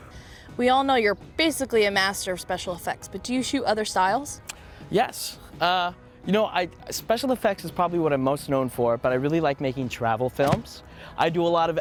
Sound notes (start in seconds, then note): 4.4 clicks tongue